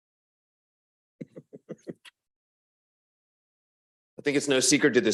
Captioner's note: board member chuckling